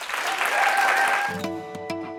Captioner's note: applause